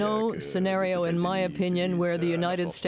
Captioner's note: speaking French